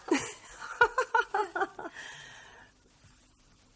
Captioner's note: weak laugh